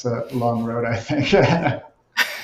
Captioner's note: laughs